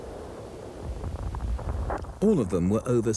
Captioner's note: shells boom